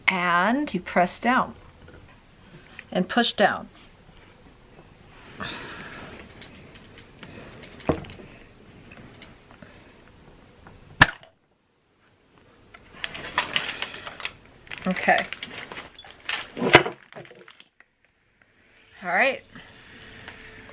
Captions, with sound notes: and you press down. And push down. (popping) Okay. Alright.